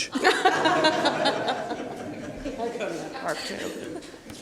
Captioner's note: laughing